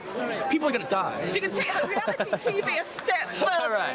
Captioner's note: Quentin laughing